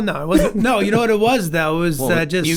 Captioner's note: group chuckles